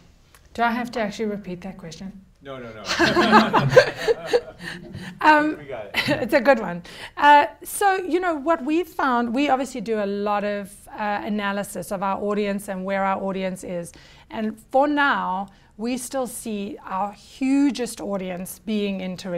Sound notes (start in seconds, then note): 2.8 laughter